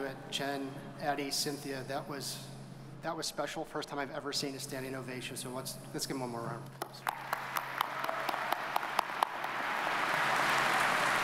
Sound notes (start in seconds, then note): 6.8 audience applauds